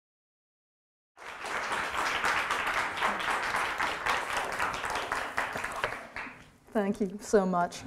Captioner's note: audience applause